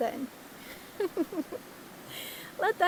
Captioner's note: laugh